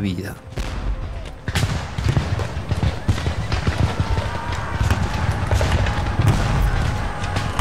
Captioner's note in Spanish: Disparos, explosiones; Gritos, relinchos de caballo